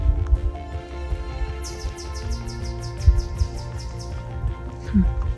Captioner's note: bird chirping